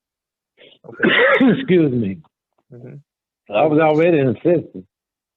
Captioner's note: man sneezing